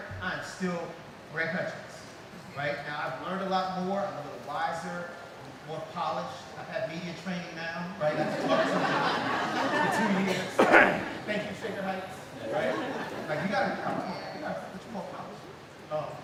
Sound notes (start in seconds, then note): 8.1 laughing